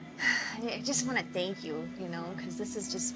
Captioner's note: sighs